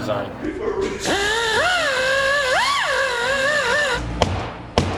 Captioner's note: power tool sounds